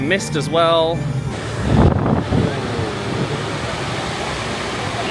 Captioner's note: wind blows